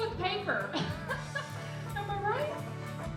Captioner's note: laughing; slow upbeat music